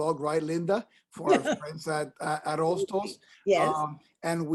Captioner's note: laughs